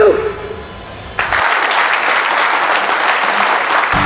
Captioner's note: All clapping